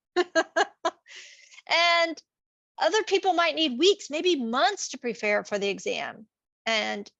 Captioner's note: laughing